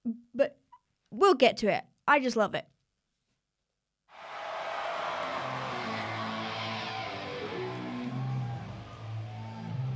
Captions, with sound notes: but we'll get to it, I just love it. (crowd cheering) (guitars grinding)